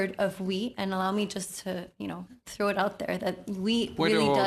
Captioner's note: speaking french